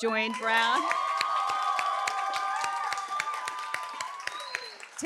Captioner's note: applause